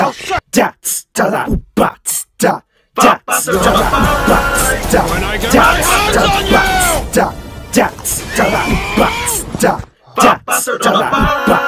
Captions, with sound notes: When i have a hands gets on youuu (yelling)